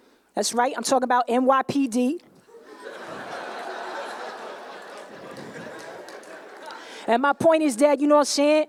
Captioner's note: laughter